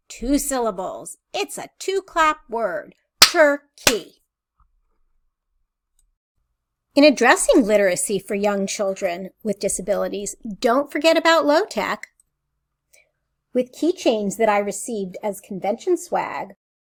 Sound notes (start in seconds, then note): 3.8 clapping